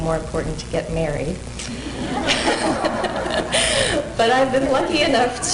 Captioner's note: laughter